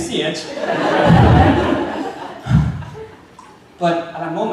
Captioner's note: audience laughing